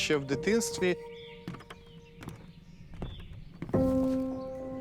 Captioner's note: birds chirping